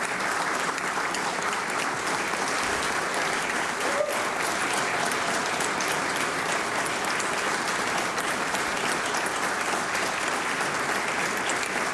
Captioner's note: applause